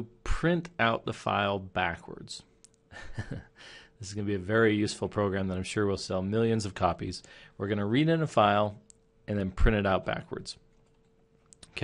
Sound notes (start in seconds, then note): 2.9 chuckling